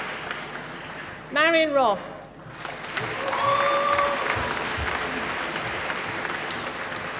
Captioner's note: applause